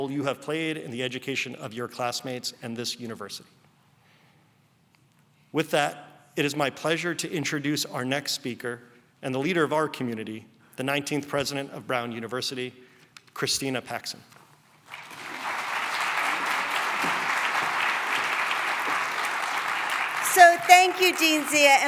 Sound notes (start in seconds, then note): 14.8 applause